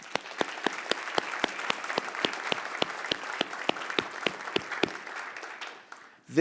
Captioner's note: applause